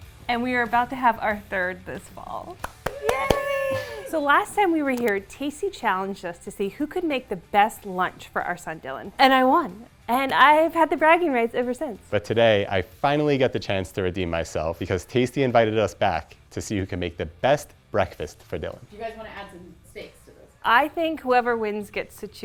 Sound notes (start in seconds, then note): 2.6 applauding